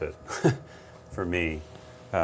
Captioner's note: laughs